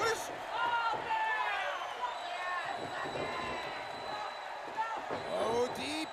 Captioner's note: cheering